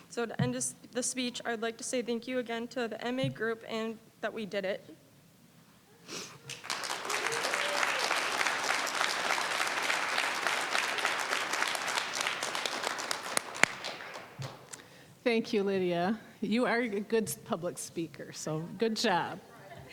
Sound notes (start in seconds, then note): 6.4 applause